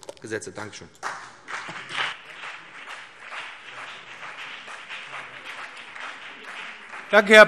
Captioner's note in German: Beifall BÜNDNIS 90/DIE GRÜNEN und vereinzelt CDU